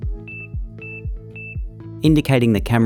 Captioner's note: gentle chiming music; device beeping